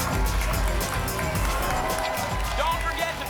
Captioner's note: whoosh